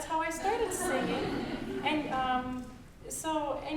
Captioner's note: audience chuckling